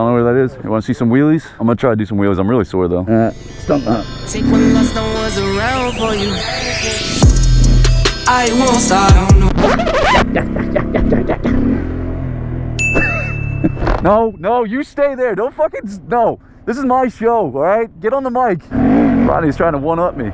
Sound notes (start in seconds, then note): 6.4 upbeat music playing; 8.9 record skip sound effect